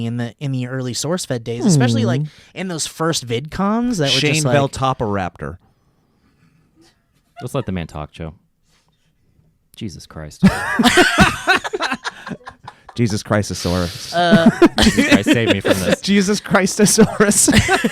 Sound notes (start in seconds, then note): 7.3 laughing in background; 10.5 laughing